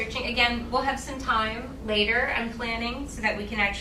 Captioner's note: none